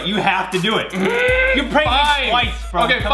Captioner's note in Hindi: गुर्राना